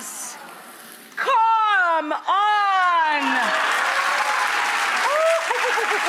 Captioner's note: audience applauds